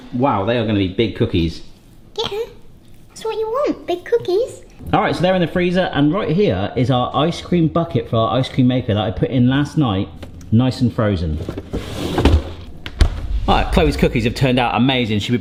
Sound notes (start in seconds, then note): 12.9 door thudding